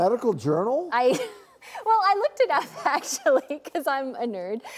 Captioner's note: laughs